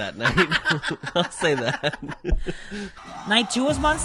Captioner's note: laughs